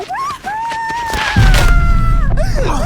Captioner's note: crying; slam